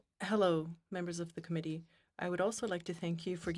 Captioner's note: speaking French